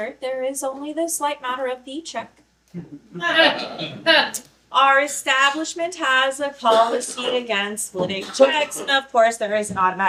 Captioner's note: awkward laughter